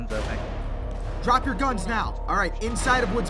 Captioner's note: shots in the distance